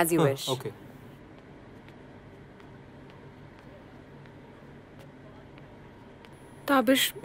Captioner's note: Footsteps